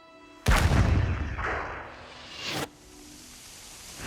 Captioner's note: gunshot booming